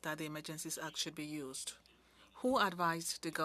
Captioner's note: speaking French